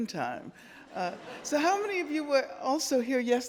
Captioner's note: audience laughing